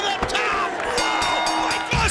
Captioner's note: bell rings